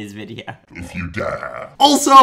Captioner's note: in evil voice